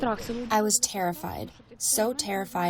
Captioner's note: through translator